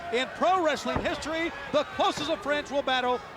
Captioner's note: footsteps plodding